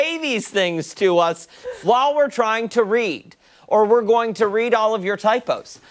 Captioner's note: laughter